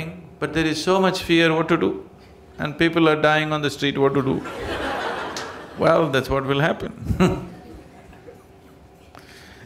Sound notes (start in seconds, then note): 4.4 laughter; 7.0 laughs